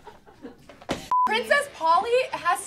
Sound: beep

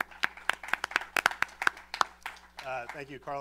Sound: applause

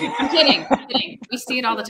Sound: all chuckle

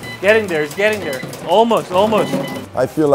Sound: fryer beeping

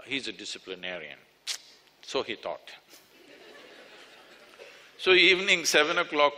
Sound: laughter

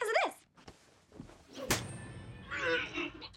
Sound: retching

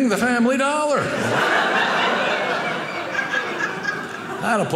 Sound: audience laughing

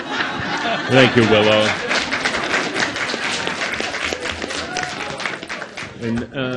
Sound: audience laughs; audience clapping

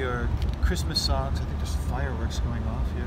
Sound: hearing noise on adjoining roof

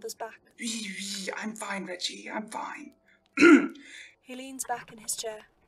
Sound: Orion clears his throat

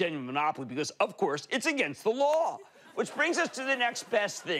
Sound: audience laughing

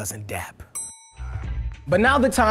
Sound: bell dinging

